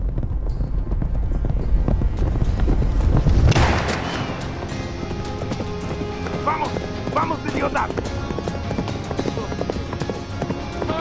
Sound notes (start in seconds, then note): 3.5 gunfire ricocheting; 6.4 outlaw speaking in Spanish